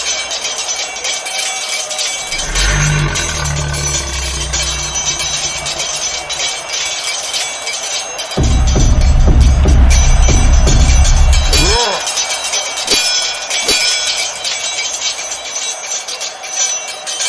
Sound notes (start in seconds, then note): 2.3 creature grunting; 8.4 footsteps thudding; 11.5 both grunting; 12.1 swords clanging